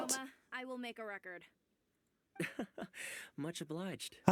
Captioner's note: laughs